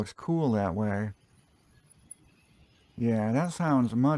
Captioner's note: silence